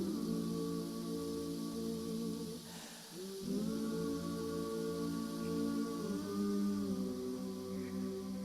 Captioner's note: humming